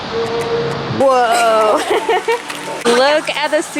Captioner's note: laughs